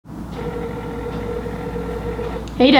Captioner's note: phone ringing sound